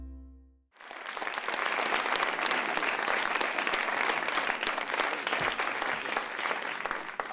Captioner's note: applause